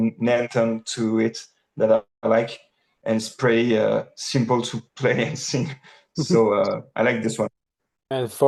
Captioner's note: chuckles